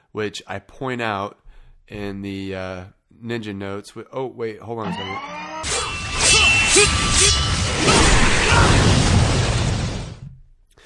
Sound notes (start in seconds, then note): 6.0 Ninjas grunting; 6.0 metal clanking